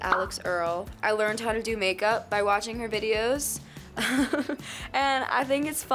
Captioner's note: laughs